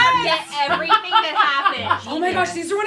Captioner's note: laughter